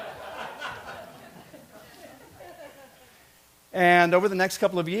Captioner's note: laughter